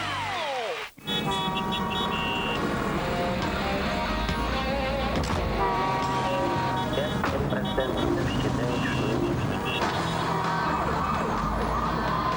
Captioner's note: energetic music; car horns; knock of doors